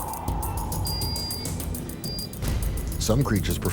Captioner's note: monitor beeps